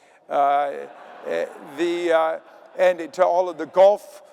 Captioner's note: audience laughing